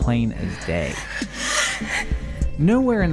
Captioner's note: screams